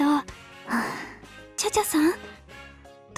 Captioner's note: sigh